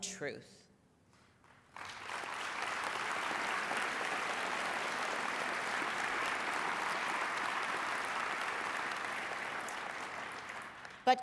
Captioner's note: applause